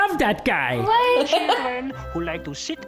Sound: laughs

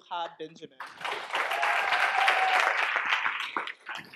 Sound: applause

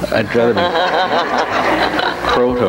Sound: audience laughs

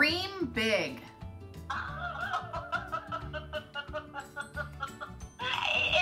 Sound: laughing

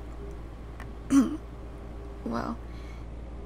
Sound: clears throat

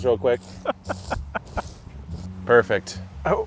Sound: laughs

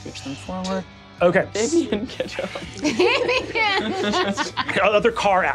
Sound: laughs

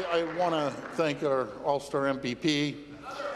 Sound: applause

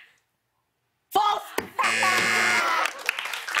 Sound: buzzer

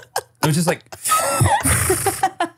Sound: trills

